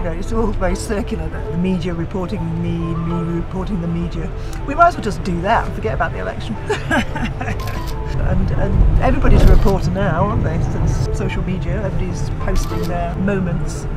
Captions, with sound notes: It's all very circular, the media reporting me and me reporting the media. We might as well just do that and forget about the election. (CAMERA SNAPS) Everybody's a reporter now, aren't they? Since social media, everybody's posting their moments,